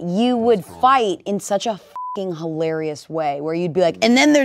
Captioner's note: beep